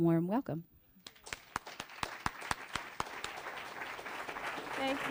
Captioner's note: applause